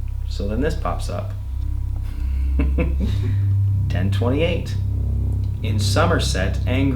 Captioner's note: laughing